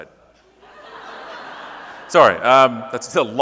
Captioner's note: audience laughing